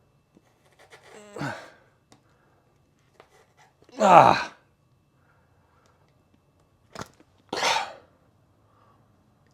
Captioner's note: various Grunts